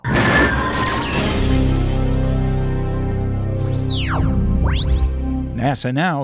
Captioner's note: sound Effects